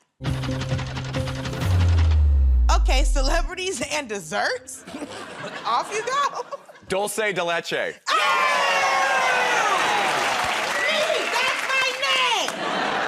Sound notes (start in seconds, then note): 4.8 chuckles; 8.0 cheers and applause; 12.4 laughter